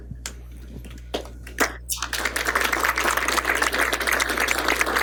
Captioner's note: applause